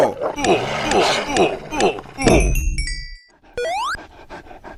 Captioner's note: grunting; dog panting